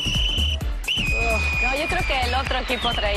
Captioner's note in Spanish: silbato